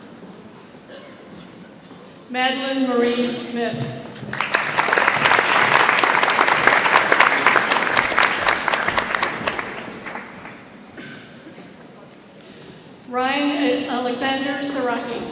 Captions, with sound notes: Madelyn Marie Smith. (audience applauds) Ryan Alexander Zurahee.